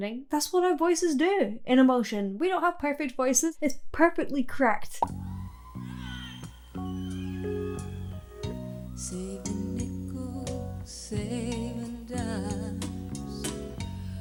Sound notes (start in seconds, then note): 5.1 audience cheering; 6.6 low rhythmic music